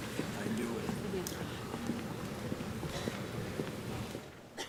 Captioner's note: officials chattering